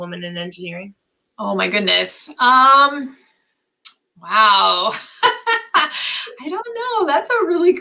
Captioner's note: laughter